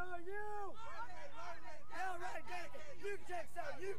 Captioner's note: cadets chanting